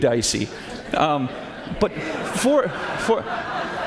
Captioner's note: laughter